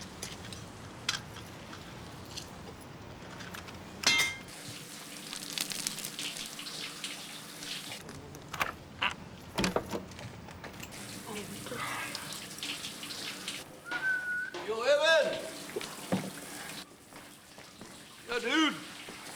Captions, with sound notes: (grunts) (whistles) Yo, Evan! Yo, dude!